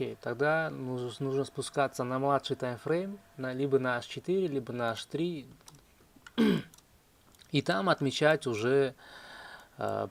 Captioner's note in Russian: откашливается